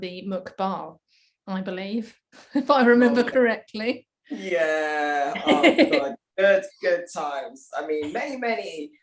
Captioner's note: hehehe